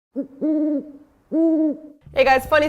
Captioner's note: owl hooting